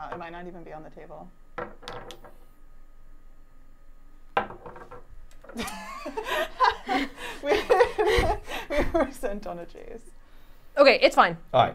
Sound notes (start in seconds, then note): 4.4 bottle banging on table; 5.5 laughing